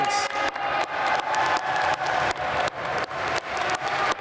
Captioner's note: applause